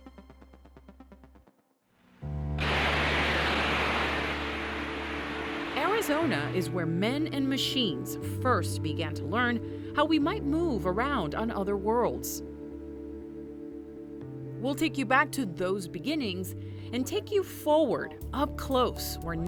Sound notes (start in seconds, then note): 2.6 rockets blasting